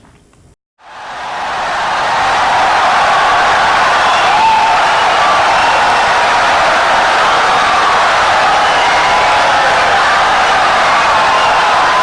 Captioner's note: wild applause and cheering for 17 seconds